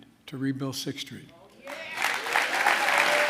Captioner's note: applause